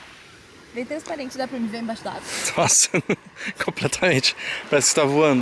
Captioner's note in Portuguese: risadas